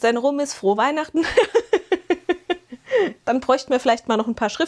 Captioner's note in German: gelächter